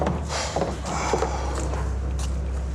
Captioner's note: sighs